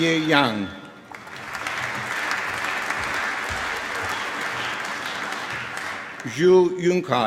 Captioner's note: applause